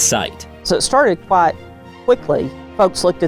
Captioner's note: pat